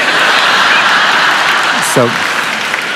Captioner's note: laughter